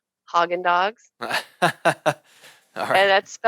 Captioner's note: laughing